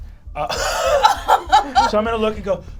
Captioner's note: all laugh